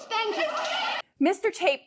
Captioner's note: crowd cheering